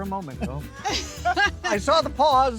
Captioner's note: laugh